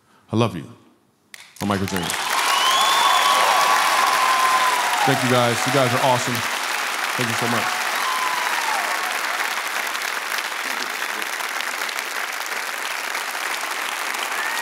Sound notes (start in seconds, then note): 2.4 cheers and applause; 12.1 applause